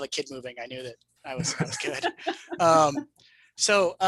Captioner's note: laughs